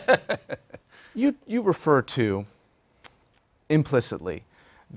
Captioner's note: laugh